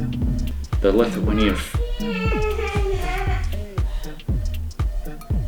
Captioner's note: drowned out in truck noises; child whining loud AF